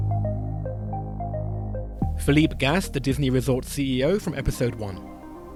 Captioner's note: voiceover